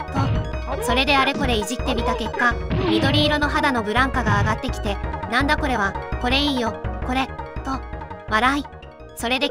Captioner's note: laughs